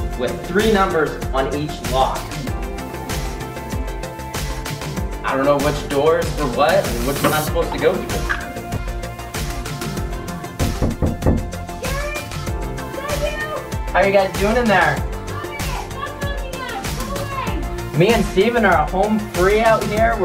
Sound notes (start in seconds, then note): 10.6 knocks